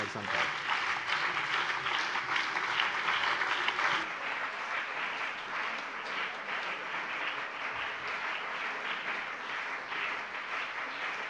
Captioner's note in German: Anhaltender lebhafter Beifall CDU und BÜNDNIS 90/DIE GRÜNEN